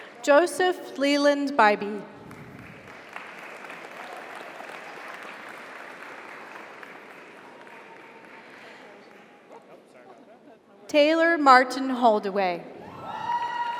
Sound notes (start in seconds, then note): 2.2 audience applauds; 3.6 audience cheers